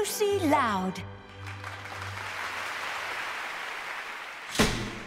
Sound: audience applauding

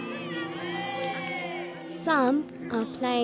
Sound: crowd cheers

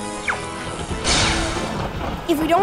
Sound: storm raging

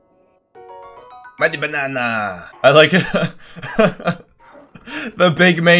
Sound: laugh

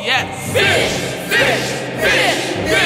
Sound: group chanting

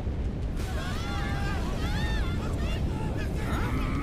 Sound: crashing; people shouting; Drago growling

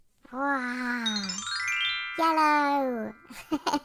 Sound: magic chime sound

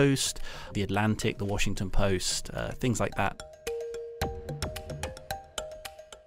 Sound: voiceover

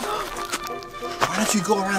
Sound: girl gasps

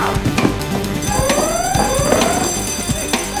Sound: alarm ringing

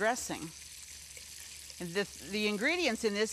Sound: bacon sizzling

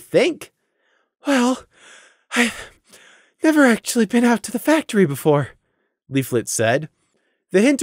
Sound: huff

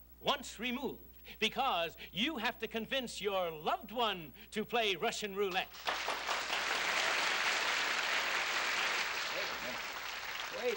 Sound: applause

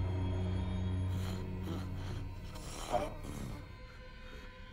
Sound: raspy breathing

